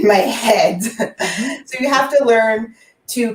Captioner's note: laughing